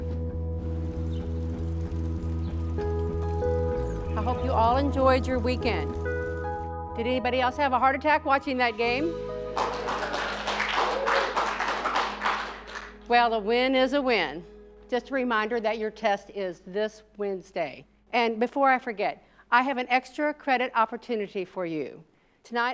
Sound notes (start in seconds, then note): 0.2 pleasant electro rock music; 9.5 students clapping